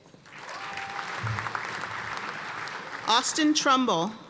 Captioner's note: cheers and applause